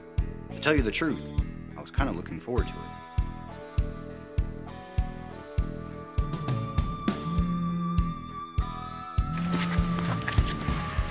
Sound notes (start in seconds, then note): 3.3 upbeat rock music; 7.3 phone vibrating